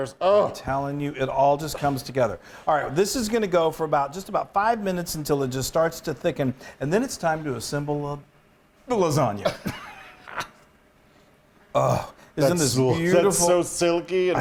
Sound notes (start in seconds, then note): 9.5 laughs